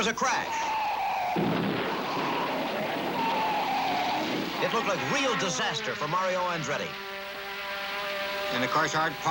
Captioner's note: tires screech